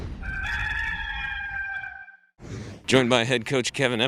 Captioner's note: cock crows